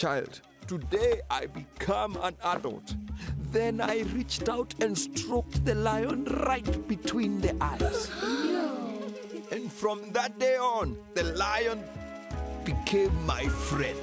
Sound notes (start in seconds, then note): 7.8 gasps